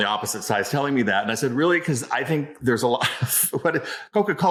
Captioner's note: laughs